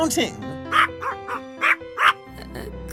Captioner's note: barking sounds